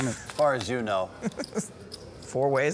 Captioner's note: laughing